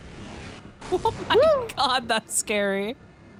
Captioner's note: laughs